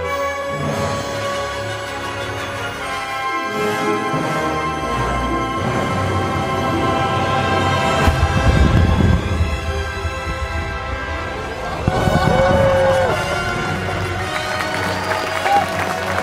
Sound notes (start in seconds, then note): 0.1 dramatic music continues; 8.0 fireworks popping; 11.4 crowd applauding and exclaiming